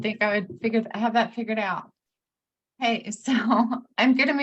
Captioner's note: chuckles